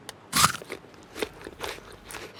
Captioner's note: crunches